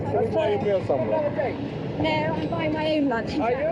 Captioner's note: reporters shouting